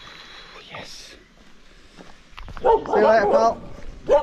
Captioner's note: sighs